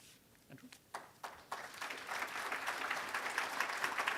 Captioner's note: applause